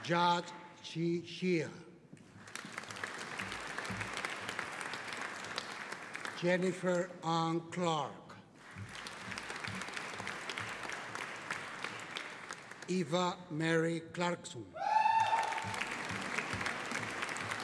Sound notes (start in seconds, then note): 2.3 audience applauding; 8.6 audience applauding; 14.8 audience cheering